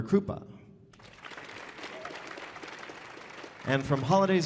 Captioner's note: audience applauding